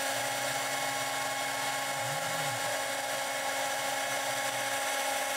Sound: CNC machine noise

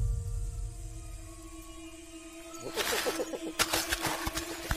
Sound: bird squabbles

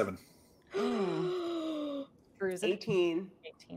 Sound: Hope gasping

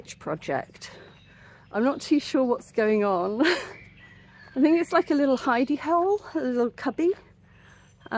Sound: laughing

